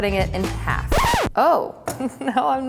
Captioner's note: record screech